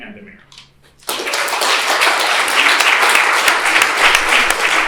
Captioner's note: applause